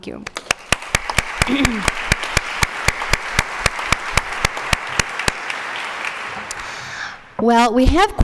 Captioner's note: applause